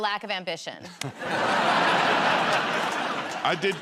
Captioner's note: laughter